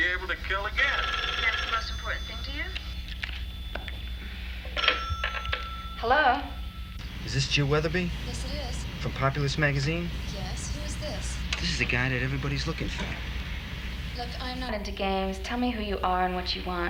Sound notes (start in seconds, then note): 1.6 phone rings